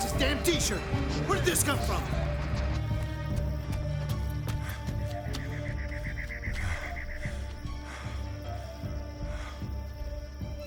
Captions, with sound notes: - His damn t-shirt. Where'd this come from? (adventurous music) (insects chirping)